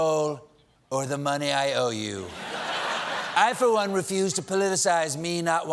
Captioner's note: laughter